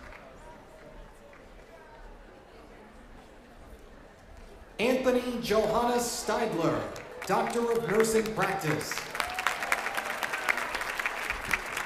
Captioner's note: cheers and applause